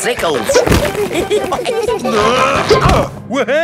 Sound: all giggling; grunting

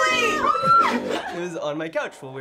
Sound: screams

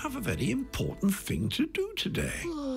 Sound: yawning

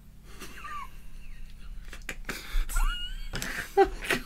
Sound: dissapointed Laughter

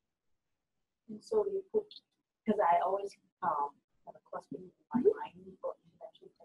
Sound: voiceover

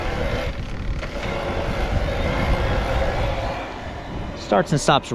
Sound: whirring

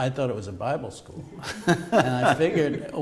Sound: laughter

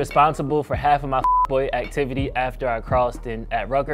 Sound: beep

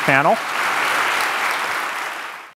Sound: applause

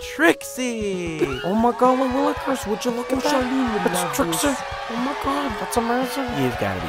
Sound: crowd cheers

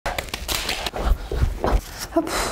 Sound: cards rustling; shoes thumping on ground; breathing heavily; blows out dramatically

